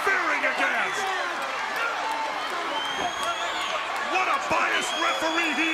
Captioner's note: crowd chatter